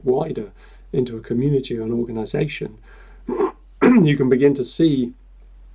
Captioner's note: clears throat